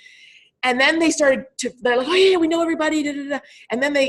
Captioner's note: stammering